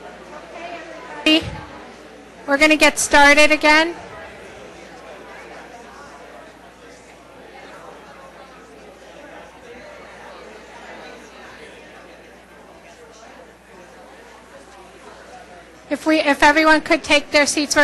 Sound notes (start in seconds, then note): 5.4 audience chatter